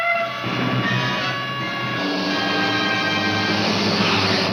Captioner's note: siren blaring